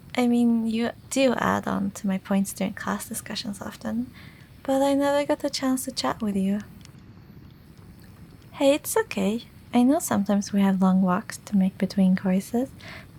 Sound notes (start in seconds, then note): none